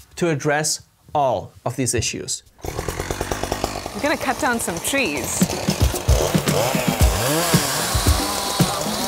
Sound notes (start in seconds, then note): 2.6 chainsaw revs